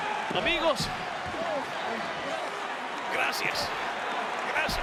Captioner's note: applause